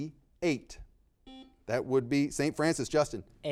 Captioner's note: buzzer beeping